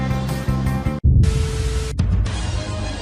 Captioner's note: TV buzzing